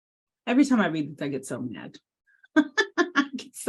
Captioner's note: laughs